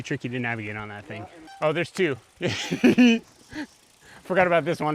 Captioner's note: insane giggle